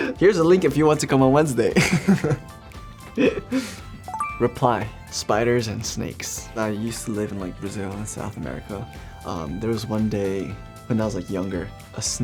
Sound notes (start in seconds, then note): 1.8 chuckles; 4.1 beeps